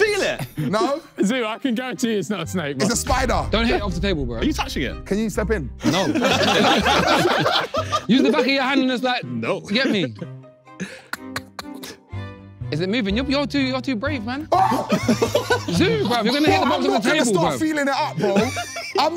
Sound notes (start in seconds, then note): 5.9 everyone laughing; 14.5 screaming